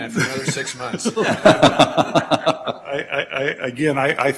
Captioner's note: laughing